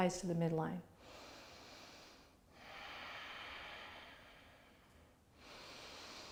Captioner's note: breathes deeply